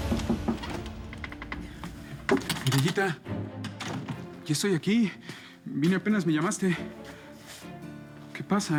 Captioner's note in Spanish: Toques en la puerta